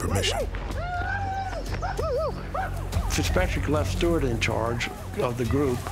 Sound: war sounds

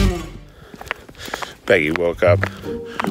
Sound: footsteps; heavy breathing

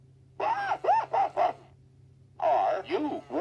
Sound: laughing

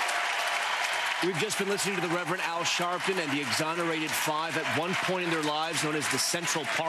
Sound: cheers and applause

